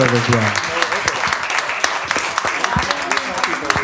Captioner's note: applause